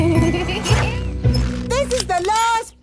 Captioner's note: laughing